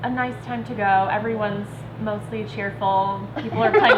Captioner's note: laughing